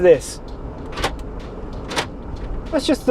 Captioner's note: lock clanking